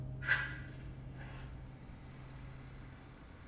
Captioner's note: lighter flicks